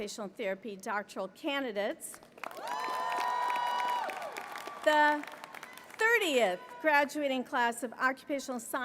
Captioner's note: applause